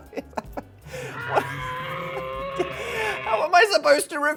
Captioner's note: screaming